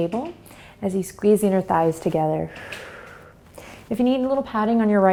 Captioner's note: exhales